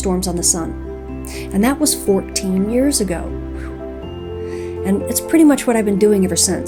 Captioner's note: whew